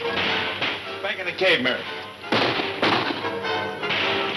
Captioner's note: guns shooting